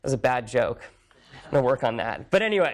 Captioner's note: laughter